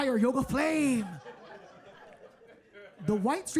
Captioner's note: audience laughing